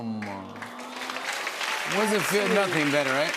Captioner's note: applause